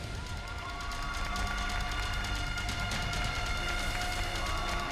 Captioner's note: crowd cheers and applauds